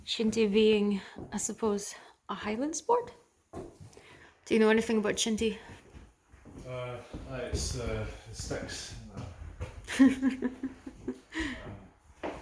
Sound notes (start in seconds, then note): 9.8 laughs